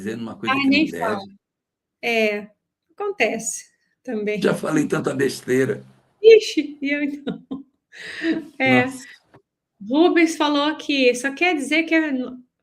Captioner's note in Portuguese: risadas